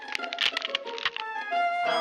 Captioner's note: cracking